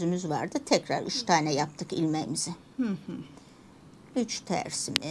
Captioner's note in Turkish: boğazını temizler